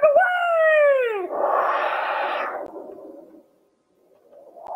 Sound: woosh!

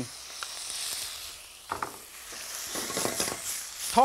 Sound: wok sizzles

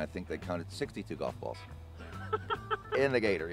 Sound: laughing

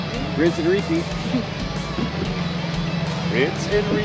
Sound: chuckling

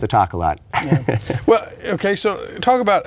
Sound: chuckling

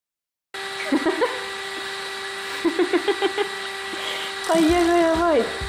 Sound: laughs

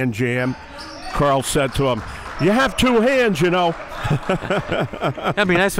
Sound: laughs

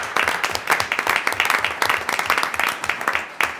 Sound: applause

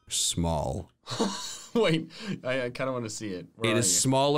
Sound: laughs

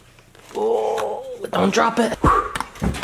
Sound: groans

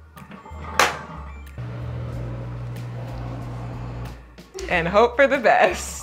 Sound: machine whirring

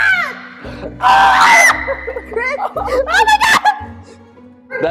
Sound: screams

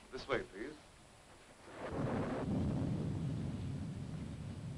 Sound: thunder rumbling

